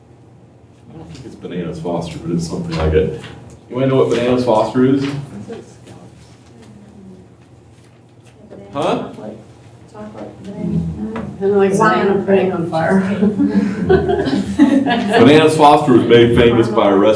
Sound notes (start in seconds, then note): 13.0 laughter